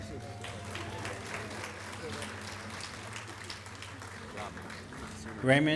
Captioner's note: applause